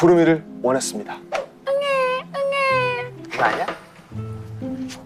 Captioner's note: crying